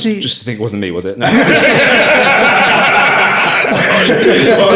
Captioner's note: all laughing